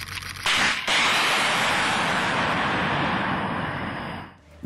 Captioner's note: missile booming